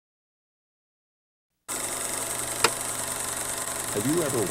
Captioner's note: film reel clicking